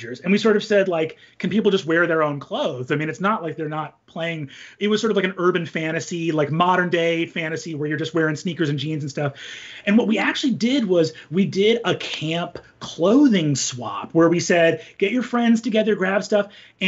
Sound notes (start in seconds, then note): none